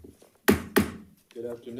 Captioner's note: gavel thudding